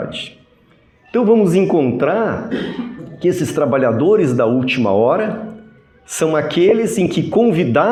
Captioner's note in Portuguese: limpando a garganta